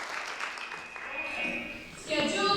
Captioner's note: applause and cheers; buzzer